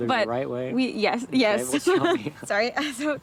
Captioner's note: laughs